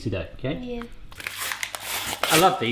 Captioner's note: paper tearing